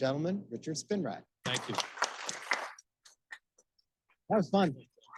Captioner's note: audience applauding